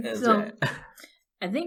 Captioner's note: laughs